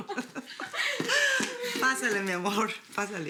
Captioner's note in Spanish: Risas